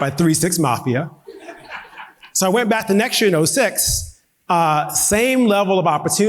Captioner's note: audience laughing